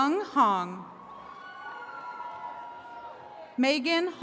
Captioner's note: attendees cheering